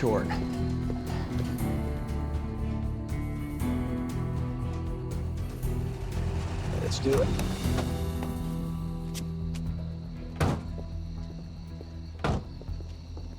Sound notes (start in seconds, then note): 0.2 tense music; 10.3 car doors close; 10.3 car doors open